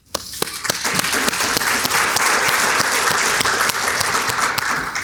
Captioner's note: audience clapping